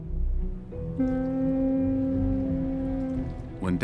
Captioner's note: whistle sounds